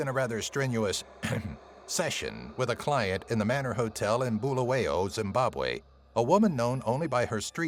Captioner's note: ahem